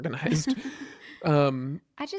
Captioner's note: laughs